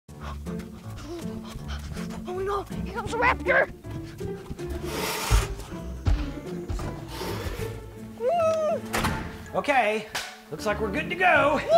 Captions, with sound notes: (heavy breathing) (quirky music) - Oh no, here comes a Raptor! (Raptor screeches) (screaming) - Okay, looks like we're good to go.